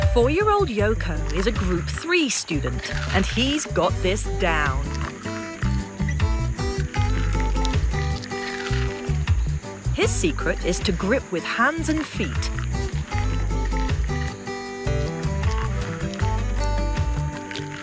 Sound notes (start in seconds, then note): 5.0 Yoko husking coconut; 5.0 bright upbeat music; 12.7 Yoko husking coconut; 12.7 bright upbeat music